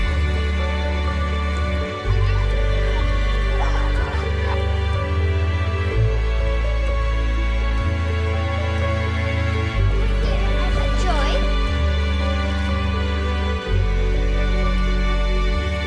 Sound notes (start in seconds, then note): 4.5 children chattering; 4.5 ethereal music continues